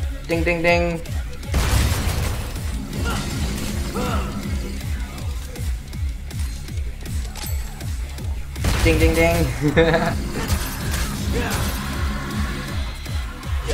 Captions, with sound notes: ding ding ding! Ding ding ding! *laughter*